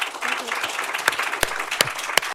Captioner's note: applause